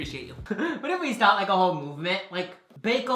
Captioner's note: laughs